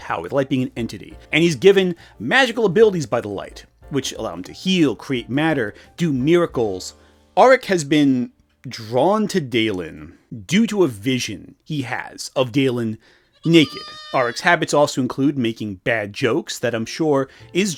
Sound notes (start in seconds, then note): 13.3 sheep bleating